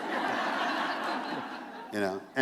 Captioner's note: laughter